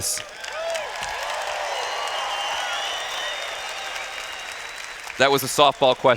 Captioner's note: cheers